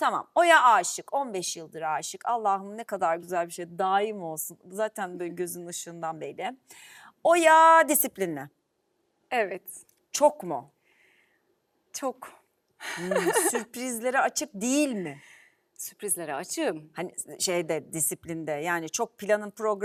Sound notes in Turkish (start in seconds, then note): 12.9 kahkaha